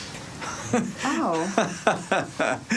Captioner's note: chuckling